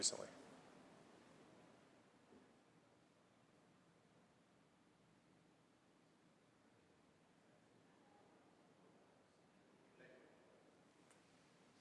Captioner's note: moment of silence